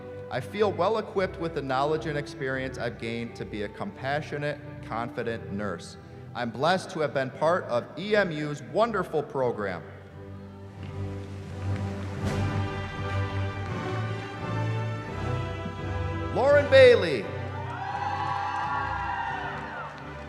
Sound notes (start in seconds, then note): 10.8 applause; 17.4 cheering